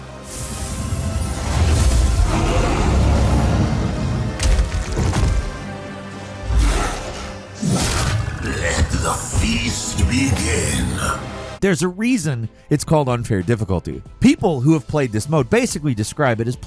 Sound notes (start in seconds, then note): 1.9 dragon growling; 4.4 creatures growling; 4.4 dramatic music